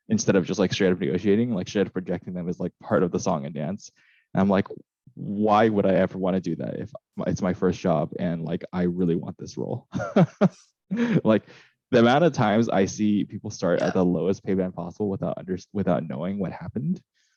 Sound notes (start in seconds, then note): 9.8 laughs